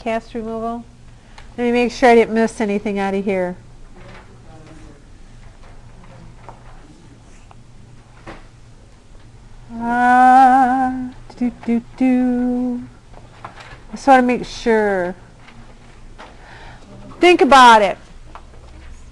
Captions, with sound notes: Cast removal -- let me make sure I didn't miss anything out of here. [humming] ...just want to make sure. Think about it.